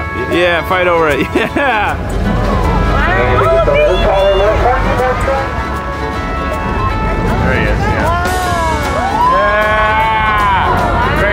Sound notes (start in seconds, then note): 1.8 intercom sounding off; 2.2 boat roaring; 8.5 drum cymbal crash